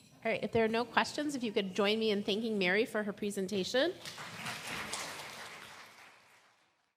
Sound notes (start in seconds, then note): 4.0 audience claps